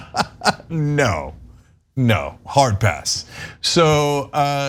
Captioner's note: laugh